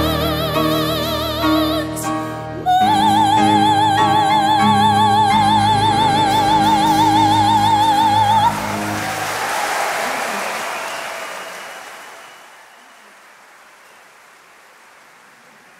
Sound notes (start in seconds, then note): 7.6 crowd clapping; 8.7 crowd cheering